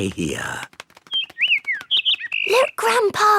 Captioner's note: bird